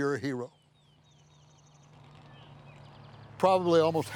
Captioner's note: birds chirping